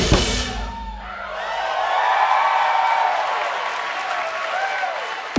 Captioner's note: audience cheering